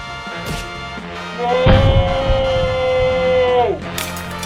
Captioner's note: smashing Noises; screaming; crunching Noises